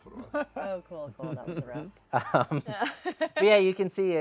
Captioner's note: laugh